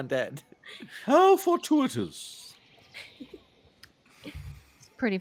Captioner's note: Calla laughs